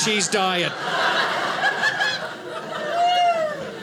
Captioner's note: audience laughing